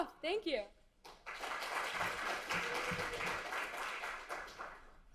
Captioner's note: audience clapping